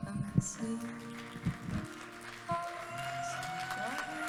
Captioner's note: audience claps and cheers